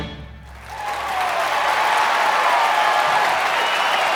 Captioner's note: crowd clapping and cheering